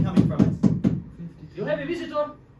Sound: knocking

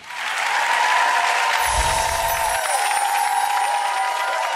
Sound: audience clapping

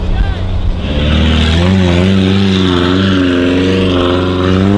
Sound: engine revving

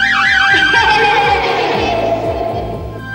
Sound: laughs

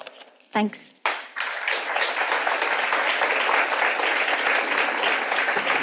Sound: audience applauds

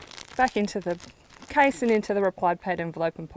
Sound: bag crinkling

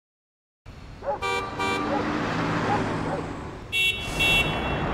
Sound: sounds of cars honking/dogs barking/engines working

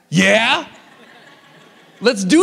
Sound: audience laughs

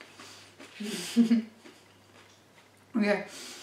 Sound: laughing with mouth closed

